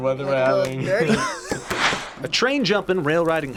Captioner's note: React laughs